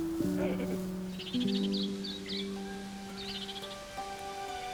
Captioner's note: birds chirping